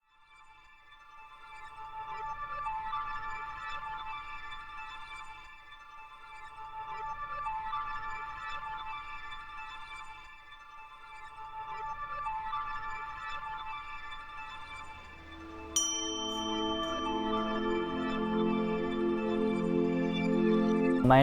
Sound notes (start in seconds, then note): 15.0 bell ding